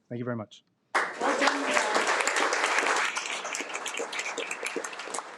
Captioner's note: audience clapping